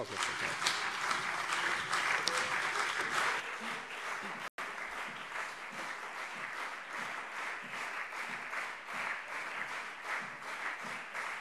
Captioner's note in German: Anhaltender lebhafter Beifall CDU und SPD